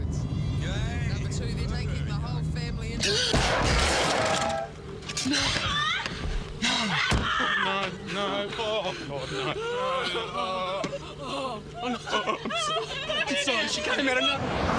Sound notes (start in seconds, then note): 5.6 screaming; 9.9 sobbing; 11.7 stuttering